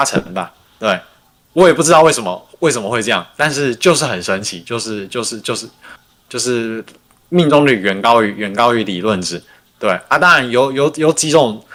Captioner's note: non-english speech